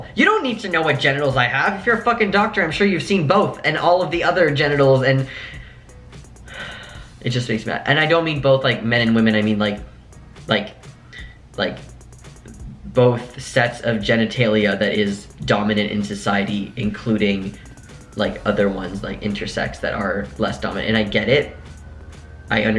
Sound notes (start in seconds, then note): 5.3 sigh